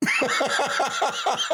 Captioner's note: laughing